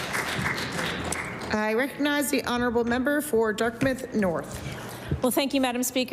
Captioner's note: applause